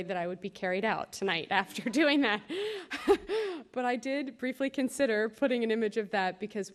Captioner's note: laughter